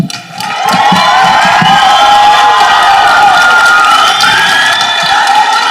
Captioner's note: people applauding and cheering